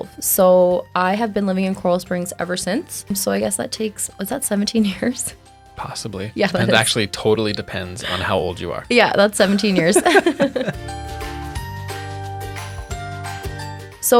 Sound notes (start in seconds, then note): 9.4 both laughing; 11.1 upbeat playful music